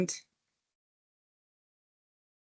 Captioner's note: silence